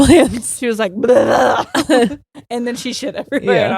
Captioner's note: screaming